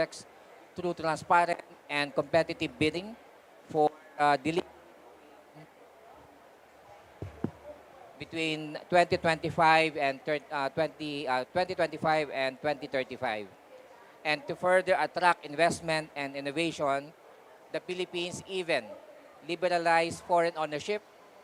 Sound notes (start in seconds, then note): 5.2 microphone cuts out